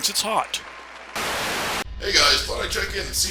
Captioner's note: static